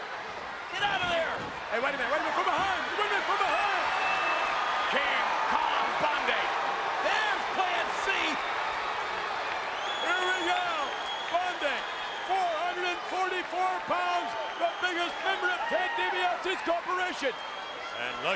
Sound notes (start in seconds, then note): 6.3 crowd boos